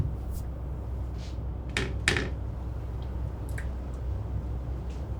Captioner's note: objects rattle